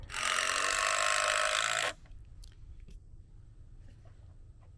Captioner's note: drill buzzing